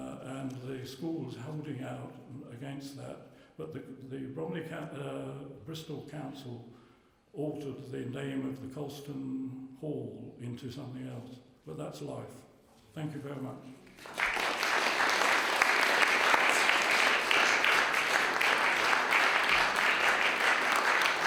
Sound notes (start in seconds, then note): 13.8 applause